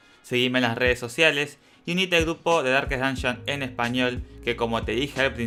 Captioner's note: in Spanish